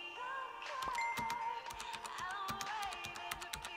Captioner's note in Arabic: صوت صفير الكمبيوتر